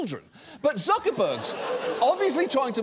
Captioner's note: audience gasps, laughs